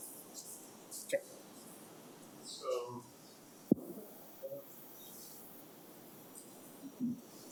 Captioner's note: mic cuts out